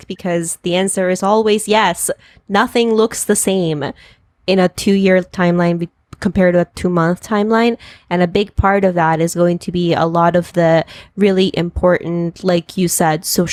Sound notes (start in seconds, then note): none